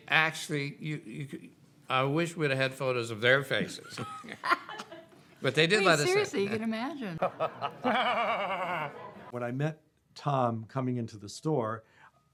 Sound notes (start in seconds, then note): 3.6 both laughing; 7.0 laughing